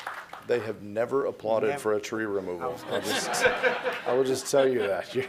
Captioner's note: applause